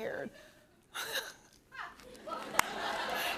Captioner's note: laughs